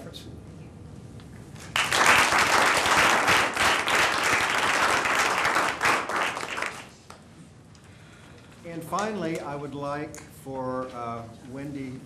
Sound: applause

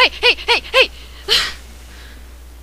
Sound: laughs

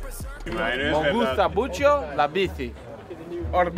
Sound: Spanish

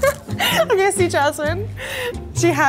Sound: laughs

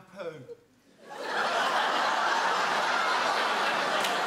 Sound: audience laughs

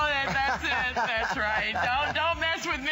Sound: laughter

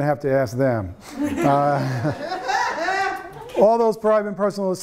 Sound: laughing

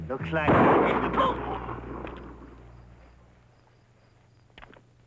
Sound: gunfire pops

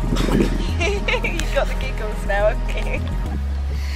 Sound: laughter

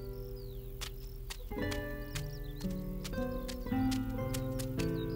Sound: feet shuffle

